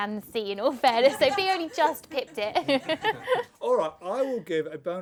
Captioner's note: laugh